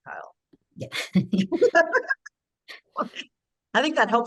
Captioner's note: laughs